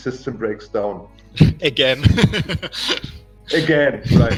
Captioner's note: смеётся